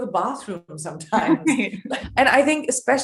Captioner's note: laughing